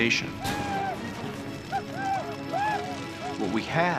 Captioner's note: whooping